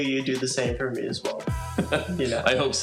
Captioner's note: chuckles